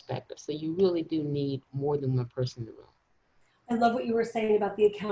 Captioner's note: faintly speaking